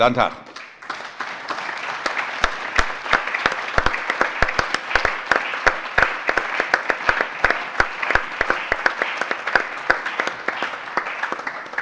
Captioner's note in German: Allgemeiner Beifall